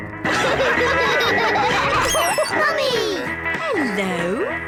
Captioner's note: all laugh